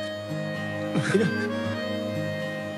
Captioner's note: Crying